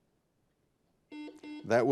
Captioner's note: buzzer buzzing